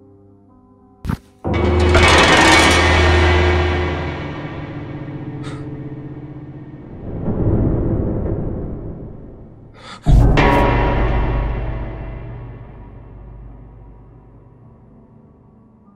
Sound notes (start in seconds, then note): 1.4 eerie music; 9.7 filmer gasping